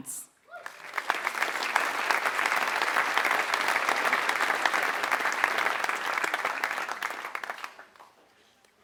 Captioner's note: applause